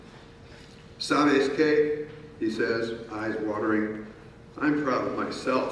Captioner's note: speaking in foreign language